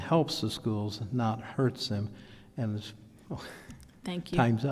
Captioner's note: laughs